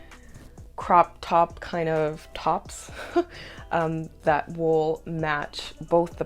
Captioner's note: laughter